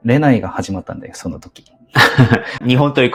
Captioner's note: laughs